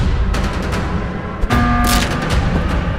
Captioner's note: alarm sounds